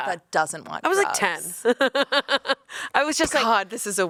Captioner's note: laughs